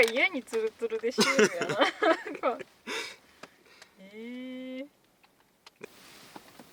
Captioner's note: laughs